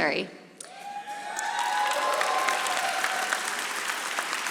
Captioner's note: audience applauding